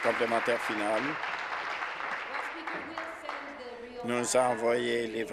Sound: applause

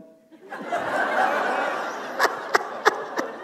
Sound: laughter

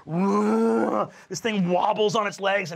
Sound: roars

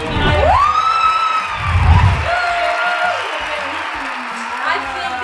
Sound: cheering and applauding

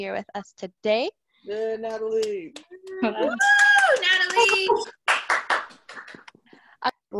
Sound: cheering and applause

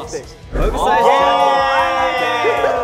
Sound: members cheering

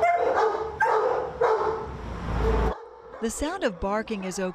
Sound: sound of barking

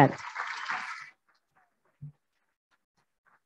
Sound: applauding

